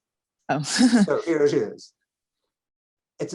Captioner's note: chuckling